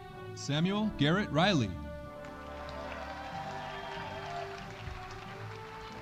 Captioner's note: audience applauding